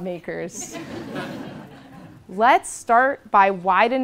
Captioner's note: laugh